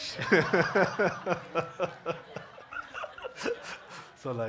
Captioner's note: audience laughing